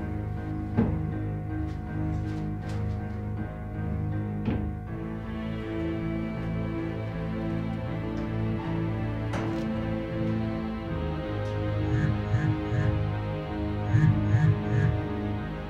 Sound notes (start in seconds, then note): 12.4 buzzing